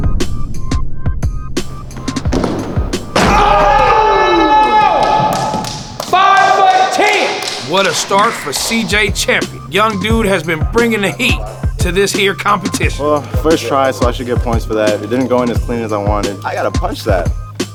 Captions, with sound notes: (yelling) Five foot 10! What a start for CJ Champion. Young dude has been bringing the heat to this here competition. - Well, first try so I should get points for that. It didn't go in as clean as I wanted, I gotta punch that.